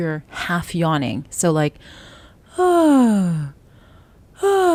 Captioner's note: yawning